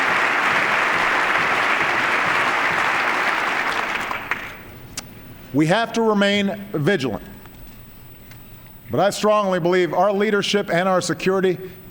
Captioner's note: applause